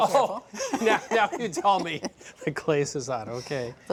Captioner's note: laughing